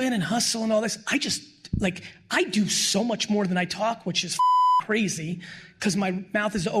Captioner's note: beep